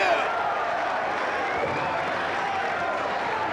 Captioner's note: crowd cheers